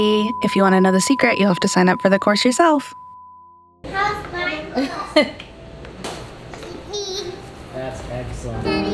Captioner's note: laughing